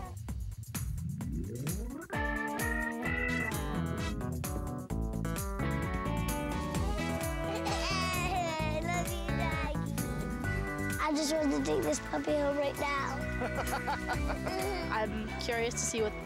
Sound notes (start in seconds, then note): 7.0 chuckling; 13.3 laughing